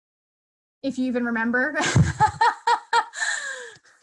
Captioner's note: laughter